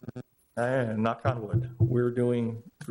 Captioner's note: fingers knocking